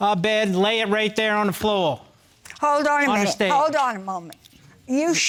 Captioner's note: none